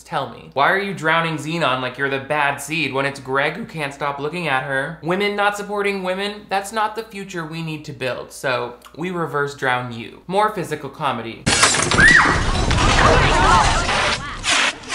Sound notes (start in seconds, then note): 11.4 glass exploding; 11.9 girl screaming; 13.6 students chattering excitedly; 14.7 fire extinguisher hissing